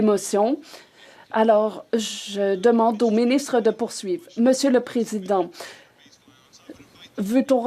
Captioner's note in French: voix de l'interprète